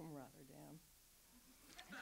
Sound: audience laughs

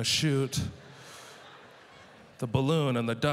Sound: audience laughter

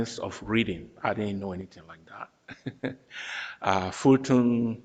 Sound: laughs

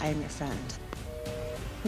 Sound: busy signal

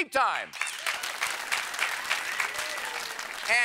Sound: cheers and applause

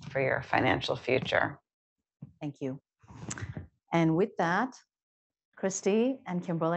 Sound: none

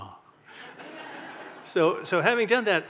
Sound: audience laughing

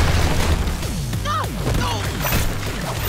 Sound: groaning

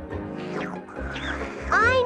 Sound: slurping

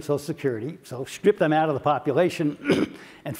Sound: cough

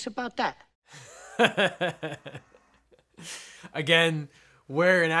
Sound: laughs

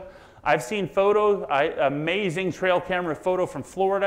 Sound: none

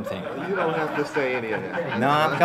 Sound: audience laughter

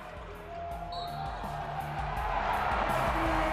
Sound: whistle blows; applause

